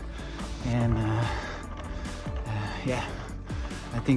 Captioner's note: taking a breath